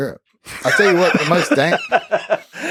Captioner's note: Lex laughs